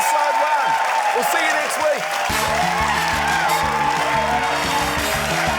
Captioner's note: cheering, applause